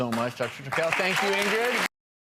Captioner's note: audience applause